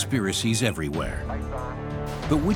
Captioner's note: chatter over radio